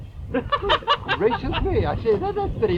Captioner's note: men laughing